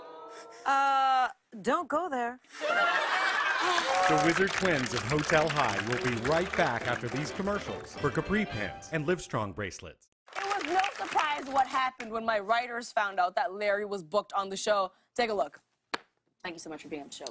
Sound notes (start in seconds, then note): 2.5 laughter